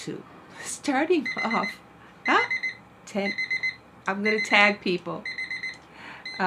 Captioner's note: timer goes off